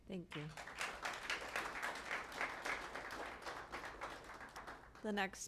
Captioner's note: applause